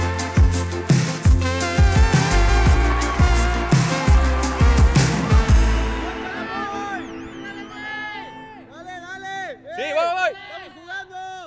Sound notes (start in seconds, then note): 1.8 ovación; 5.6 fin de la música